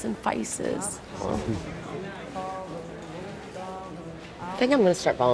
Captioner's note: Tommy laughing